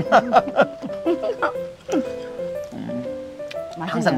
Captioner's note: both laughing